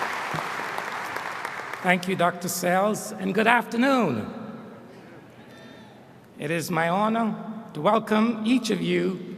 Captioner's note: applause